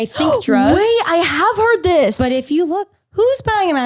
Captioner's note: gasps